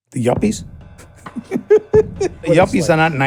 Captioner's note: laughing